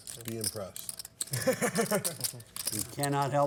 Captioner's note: laughs